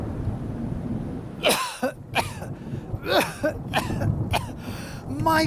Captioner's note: coughing